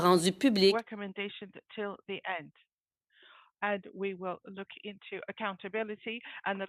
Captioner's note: speaking in French